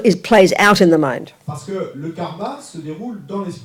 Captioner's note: French